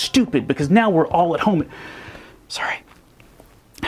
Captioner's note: deep breath